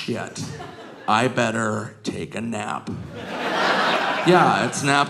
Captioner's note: audience laughing